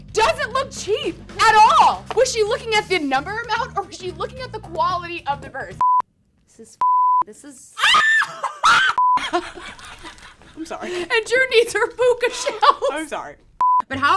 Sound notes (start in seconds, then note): 5.8 beep; 7.8 girl screams; 10.3 girl laughs